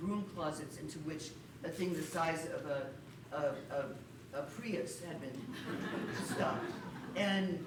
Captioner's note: laughter